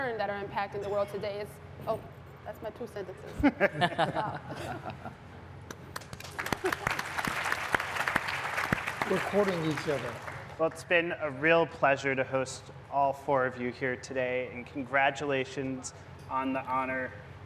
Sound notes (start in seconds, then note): 3.2 laughter; 5.9 applause